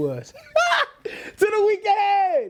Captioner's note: laughter